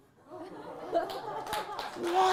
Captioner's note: applause